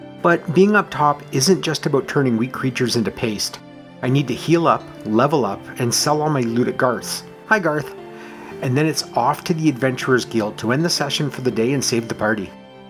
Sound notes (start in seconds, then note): none